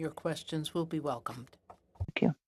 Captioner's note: speaking French